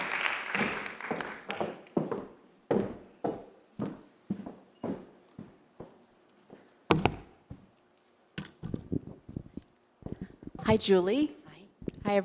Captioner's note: applause